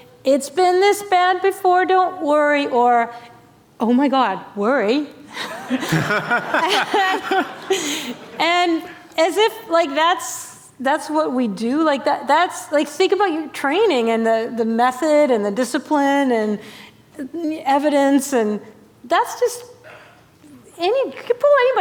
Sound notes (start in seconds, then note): 5.3 laughter